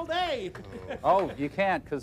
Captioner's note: groans